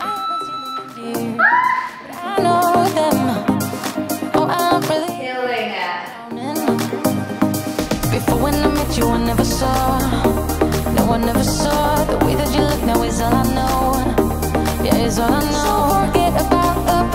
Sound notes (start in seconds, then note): 1.4 squeals